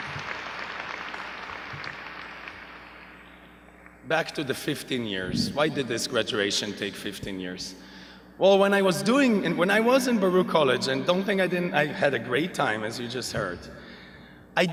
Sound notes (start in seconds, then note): 0.0 audience applauding